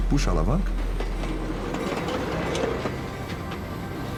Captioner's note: train going over the tracks